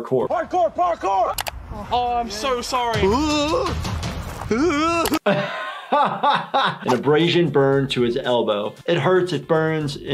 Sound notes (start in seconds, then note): 2.9 groaning noises; 4.4 laughing